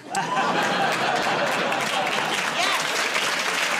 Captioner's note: laughter and applause